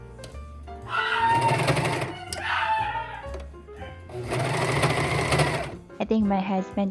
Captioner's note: shiba scream